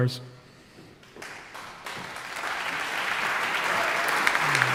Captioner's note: audience applauding